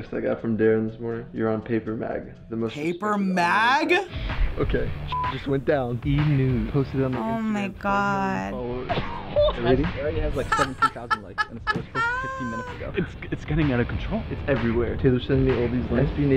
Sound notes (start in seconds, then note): 10.3 laughs